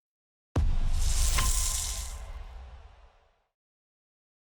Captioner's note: logo booms